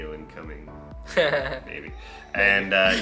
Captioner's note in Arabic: يضحك